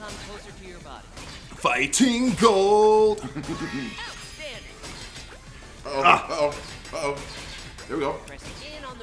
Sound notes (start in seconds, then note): 3.2 laugh